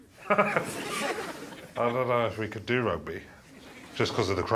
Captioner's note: laughs